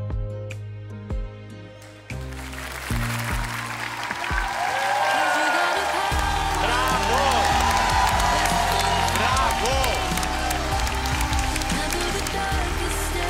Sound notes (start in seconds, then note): 2.6 audience cheering